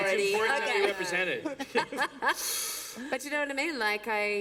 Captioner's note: laughter